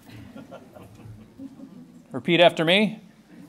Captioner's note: laughing